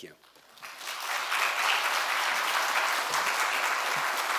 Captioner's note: audience clapping